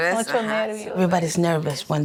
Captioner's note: speaking in Spanish